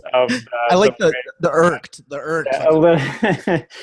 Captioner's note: laughs